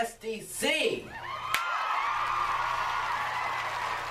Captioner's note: cheers and applause